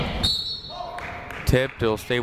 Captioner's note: whistle blows